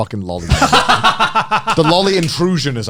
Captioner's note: both laughing